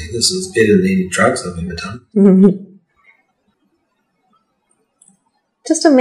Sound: laughs

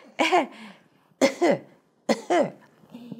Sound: laugh; cough, cough

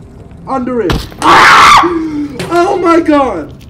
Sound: screams

